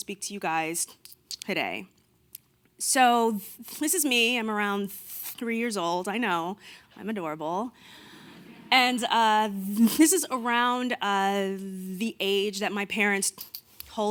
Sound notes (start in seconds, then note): 7.9 audience laughing